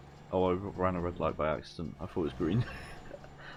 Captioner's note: laugh